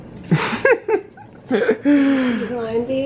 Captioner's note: laughs